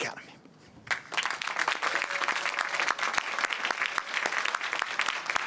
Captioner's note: applause and cheering